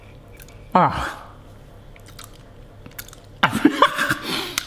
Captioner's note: exclaims; laughs